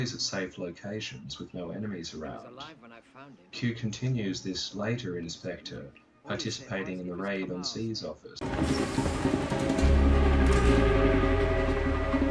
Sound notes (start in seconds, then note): 8.4 footsteps